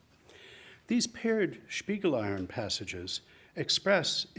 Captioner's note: speaks in foreign language